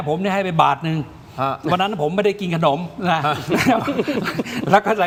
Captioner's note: laughs